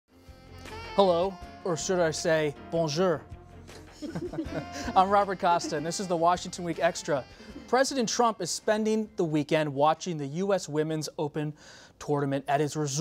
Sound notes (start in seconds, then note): 3.7 laughs